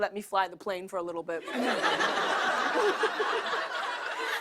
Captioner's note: laughter